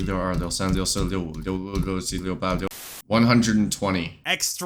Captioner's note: counting in Chinese